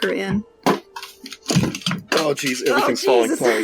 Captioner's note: desk explodes